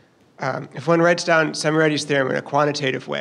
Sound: voiceover

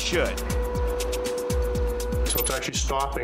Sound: machine humming

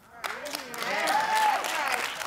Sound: audience agreeing; applause

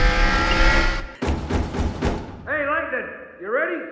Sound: knock knock knock knock

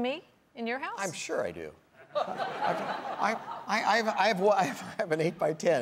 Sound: audience laughing

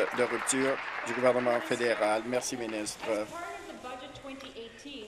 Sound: applause

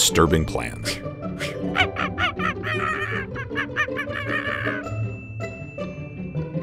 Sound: chimpanzee noises

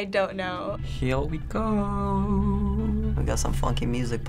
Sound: singsong

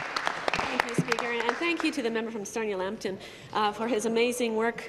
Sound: some Applause

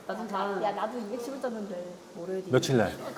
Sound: quitely

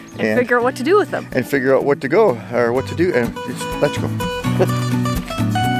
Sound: mixes up his words

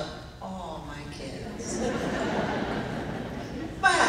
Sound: laughing

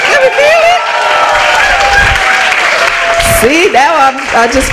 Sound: applause

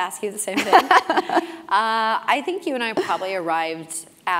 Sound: laugh

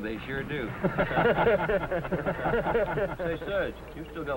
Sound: laughter

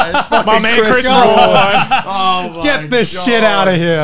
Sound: laughing

